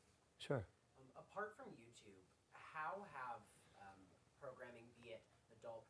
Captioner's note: voiceover